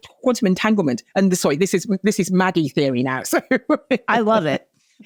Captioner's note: laughs